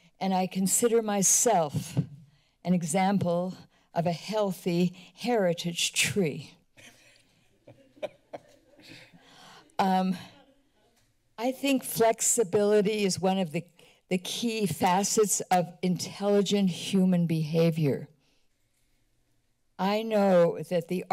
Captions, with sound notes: and I consider myself an example of a healthy heritage tree. [laughter]. Um, I think flexibility is one of the-the key facets of intelligent human behavior. I know that the